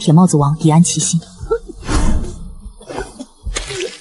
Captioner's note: cough, cough, cough